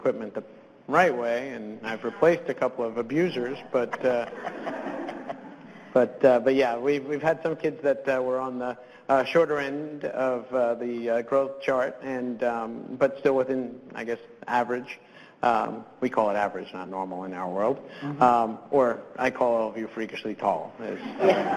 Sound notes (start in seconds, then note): 3.6 laughter; 20.9 laughter